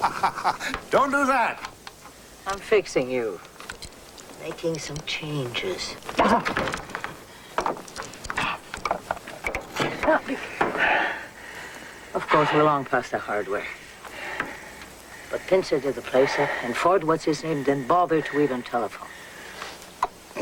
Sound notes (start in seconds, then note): 0.0 chuckling; 6.7 gasp